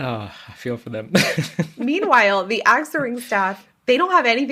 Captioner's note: laughs